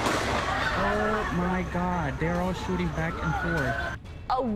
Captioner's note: gunfire